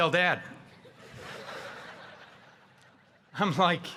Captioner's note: audience laughing